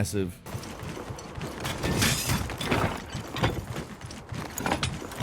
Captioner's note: mount stomping